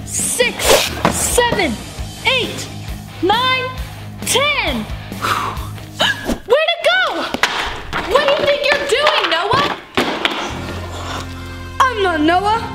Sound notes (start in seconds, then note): 5.1 exhaling; 6.3 exclaiming